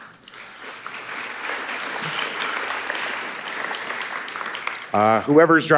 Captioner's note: audience applauding